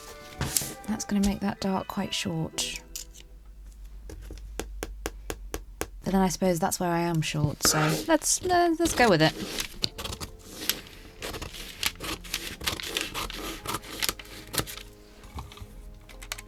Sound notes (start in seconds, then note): 4.1 taps finger on desk; 10.2 scissors snipping; 16.3 tape pulling and ripping